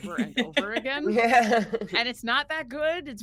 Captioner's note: person laughing